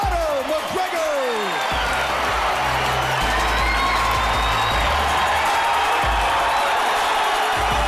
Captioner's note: raucous cheering